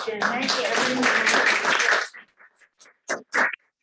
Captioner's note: applause